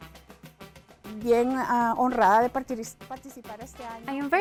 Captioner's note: lively music; speaking in foreign language